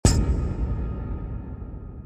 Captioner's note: boom